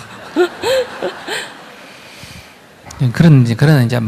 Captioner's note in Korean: 청중 웃음